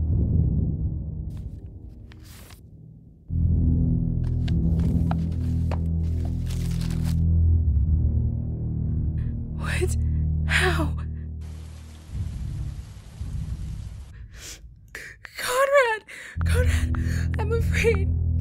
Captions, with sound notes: [envelope opening] What...? How...? Conrad... I'm afraid...